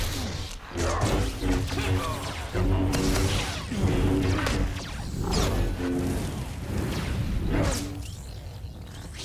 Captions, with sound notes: [GUNSHOTS] [GRUNTING] [GUNSHOTS] Come on!